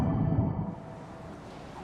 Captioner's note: waves cashing